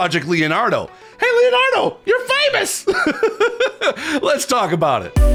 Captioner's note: laughs